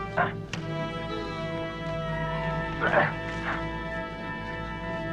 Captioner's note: Beast whines